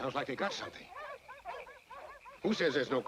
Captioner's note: dogs barking